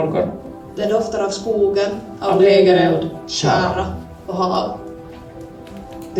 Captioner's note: campfire